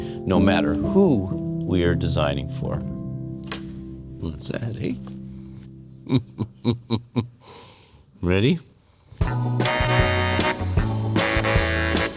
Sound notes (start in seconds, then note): 3.5 board clacking; 6.0 chuckling; 9.2 upbeat music